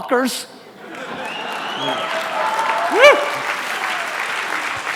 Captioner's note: audience laughter and applause